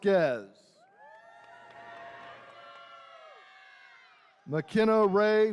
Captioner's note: attendees cheering